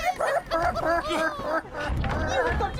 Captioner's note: evil gnome noises